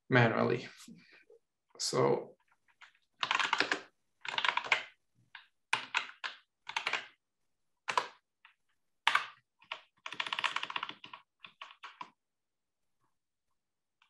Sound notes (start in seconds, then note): 3.6 keyboard clattering